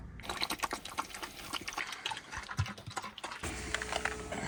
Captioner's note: dogs slurping